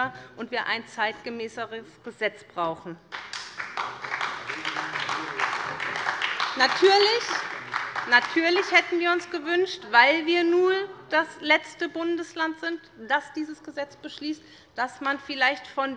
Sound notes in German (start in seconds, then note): 3.1 Beifall bei Abgeordneten der SPD und bei der LINKEN